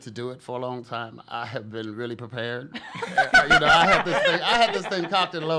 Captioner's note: laugh